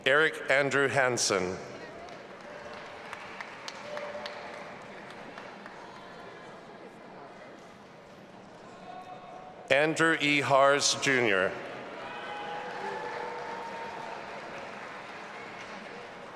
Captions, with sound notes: Eric Andrew Hansen. (audience applauding and cheering) Andrew E Harrs, Jr. (audience applauding and cheering)